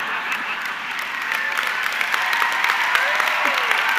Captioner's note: audience clapping